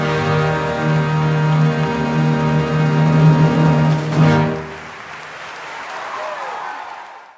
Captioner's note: clapclapclapclapclapclapclap